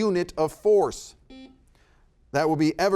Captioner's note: buzzer beeping